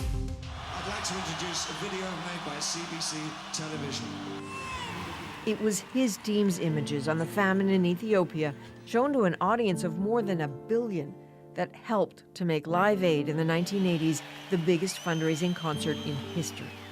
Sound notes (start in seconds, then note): 2.9 applause